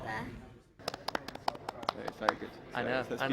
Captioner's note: clapping